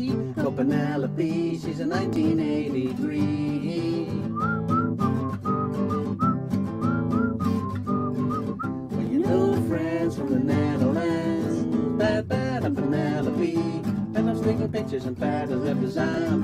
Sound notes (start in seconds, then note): 4.1 whistling